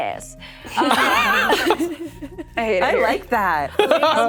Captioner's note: group laughs